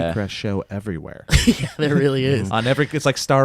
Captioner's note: laughs